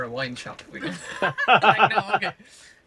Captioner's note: laughter